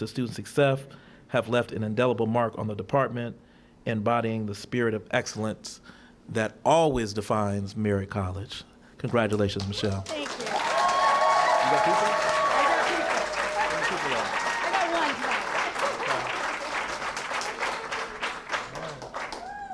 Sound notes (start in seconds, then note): 13.7 cheering & applause